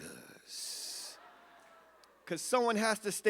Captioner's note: audience laughs